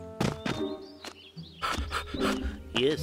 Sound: panting

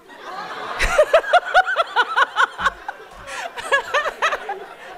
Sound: audience laughing

